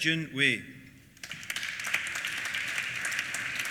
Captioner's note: applause